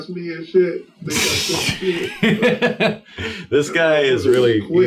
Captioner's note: laughs